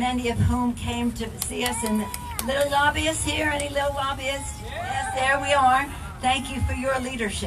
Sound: audience cheers

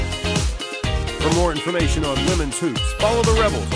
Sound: voiceover

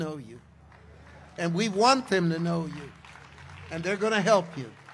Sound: congregation applauds

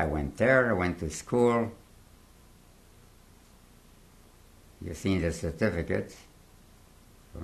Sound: pauses for 3 seconds

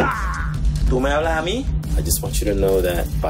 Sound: Papi speaks in Spanish

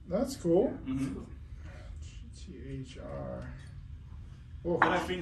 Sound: murmuring

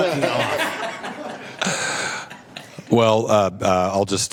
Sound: laughter

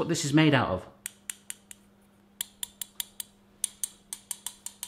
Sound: soft tapping

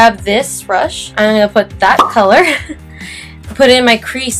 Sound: soft giggle

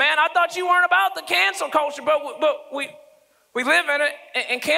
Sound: none

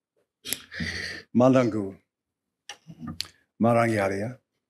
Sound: non-english speech

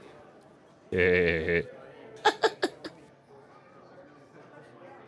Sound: both giggling

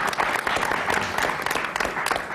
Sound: applause

